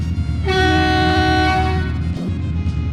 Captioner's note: honk